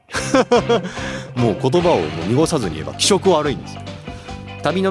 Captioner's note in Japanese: 笑い